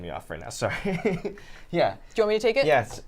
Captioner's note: laughs